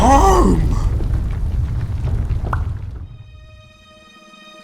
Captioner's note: intense rumbling; unnerving music